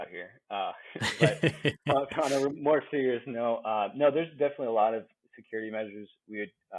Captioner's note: laughing